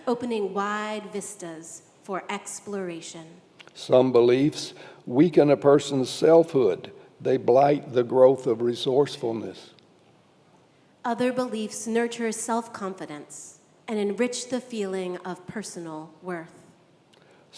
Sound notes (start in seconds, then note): none